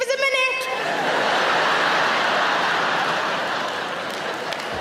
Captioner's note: audience laughing